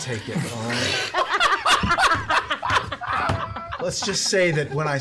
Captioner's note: laughter